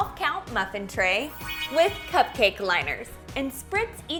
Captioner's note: shimmering bells